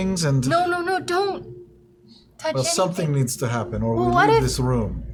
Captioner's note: none